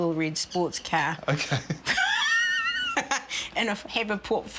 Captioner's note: laugher